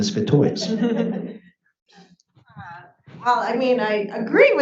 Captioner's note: audience laughs